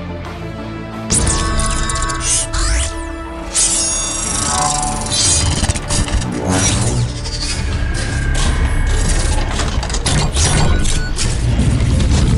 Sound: mechanical Sounds

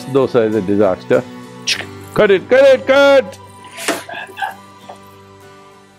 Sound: laughs

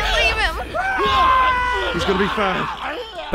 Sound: screaming

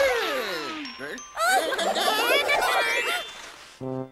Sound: exclaiming

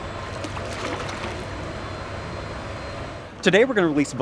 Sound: water sloshing

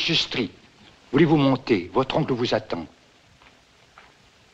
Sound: man Speaking French

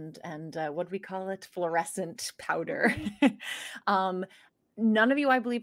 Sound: laughing

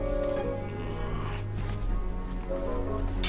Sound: growl

